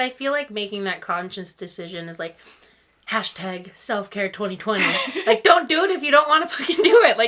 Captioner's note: laughs